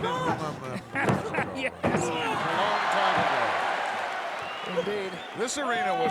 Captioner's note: laugh